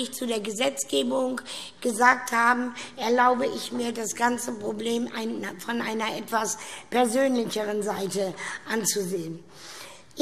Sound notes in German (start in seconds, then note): none